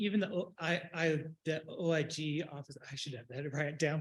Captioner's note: stammers